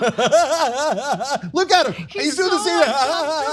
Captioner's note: laugh